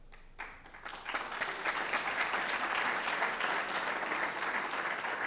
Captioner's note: applause